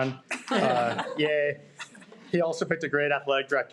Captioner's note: audience laughs